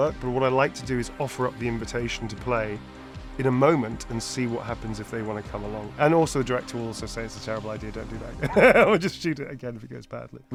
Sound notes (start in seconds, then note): 8.4 laughs